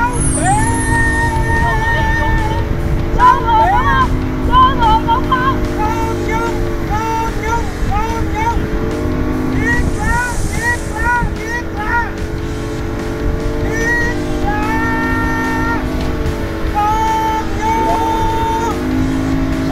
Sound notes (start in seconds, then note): 16.7 he keeps screaming